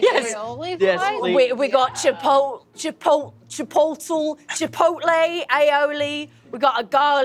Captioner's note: stammering